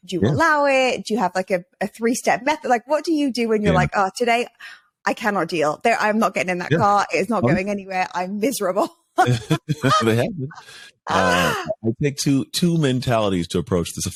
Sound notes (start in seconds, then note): 9.2 laughing